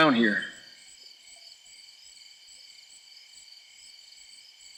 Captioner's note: crickets chirping